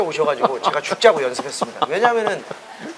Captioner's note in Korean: 웃음